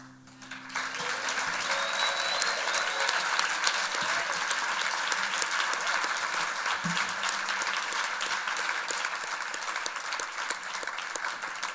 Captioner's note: applause and cheers